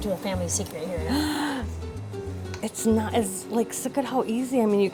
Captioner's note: gasps